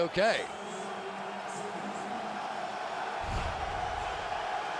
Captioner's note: pa announcement